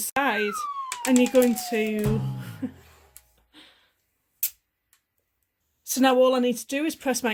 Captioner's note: giggle